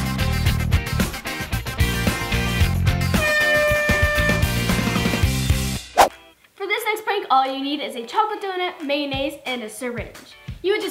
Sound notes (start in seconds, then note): 0.1 upbeat music; 3.1 air horn blares